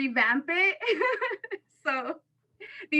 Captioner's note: laughter